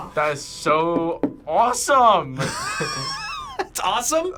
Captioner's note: laughs